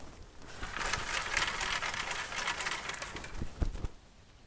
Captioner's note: tree rustling